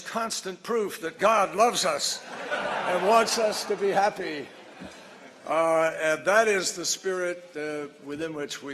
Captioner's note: laughter; laughter